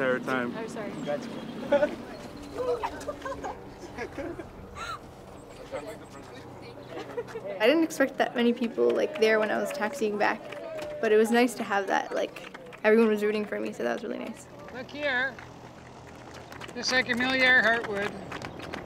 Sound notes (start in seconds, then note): 4.5 giggling and laughter; 7.3 overlapping chatter; 18.6 applause